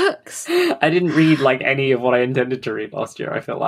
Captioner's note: laughing